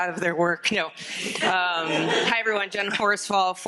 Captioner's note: audience laughing